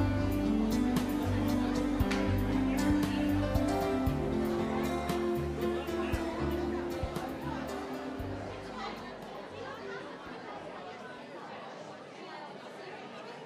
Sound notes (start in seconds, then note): 6.2 attendees chattering